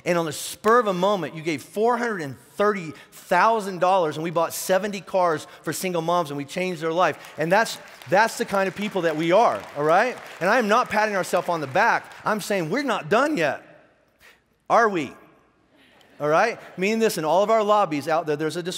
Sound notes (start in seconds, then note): 7.1 clapping; 15.7 laughing